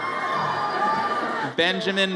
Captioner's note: audience cheers